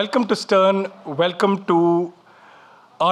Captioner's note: none